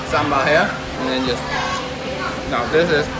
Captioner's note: omnomnom